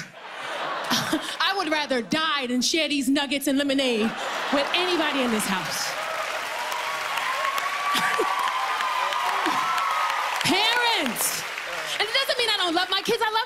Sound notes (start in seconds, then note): 6.2 cheers and applause